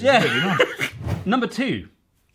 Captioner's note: laughing